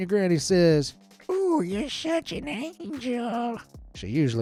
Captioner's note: speak like an old woman